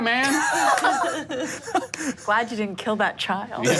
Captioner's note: laughing